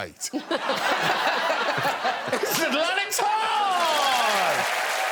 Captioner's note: applause